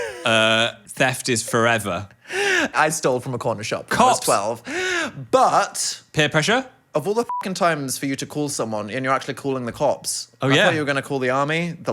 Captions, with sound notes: - Theft is forever. - I stole from a corner shop when I was 12. - Cops. - But- - Peer pressure? - Of all the (beep) times for you to call someone and you're actually calling the cops? - Oh yeah. - I thought you were